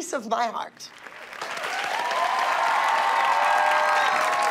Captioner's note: cheering and applause